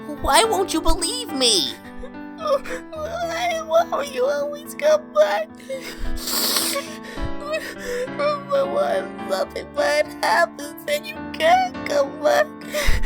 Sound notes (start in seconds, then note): 5.8 sniffs